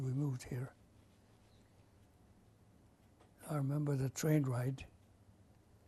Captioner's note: pauses for 3 seconds